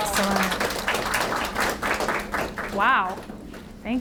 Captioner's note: audience applauds